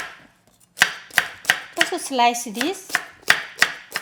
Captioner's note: chopping